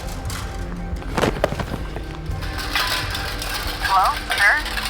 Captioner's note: sword sheathing; body thumps